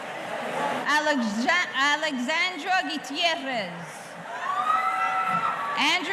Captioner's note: audience cheering